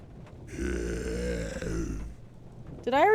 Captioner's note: guttural Noises